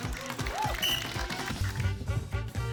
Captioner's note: blows whistle